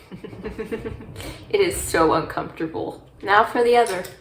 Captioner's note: laughs